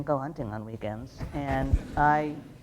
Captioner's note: light laughter